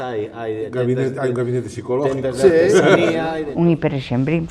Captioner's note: laughs